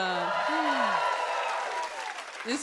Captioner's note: cheers and applause